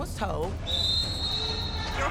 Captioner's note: whistle blowing